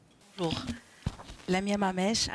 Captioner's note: speaking in foreign language